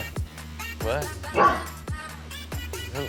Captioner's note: upbeat music; dog barks